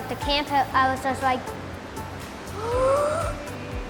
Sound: gasping

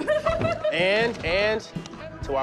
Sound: laughing

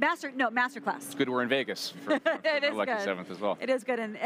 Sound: laughs

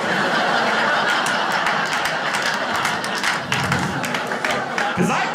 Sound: audience laughing and clapping

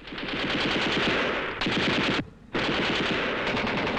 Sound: gunshots

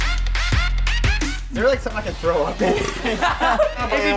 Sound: electronic music; laughing; burps

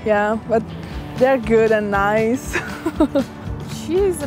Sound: laughs

